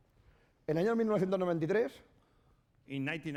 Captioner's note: speaking spanish